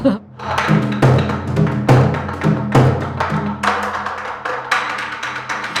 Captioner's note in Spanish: Tamborileo